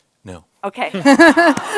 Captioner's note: laughter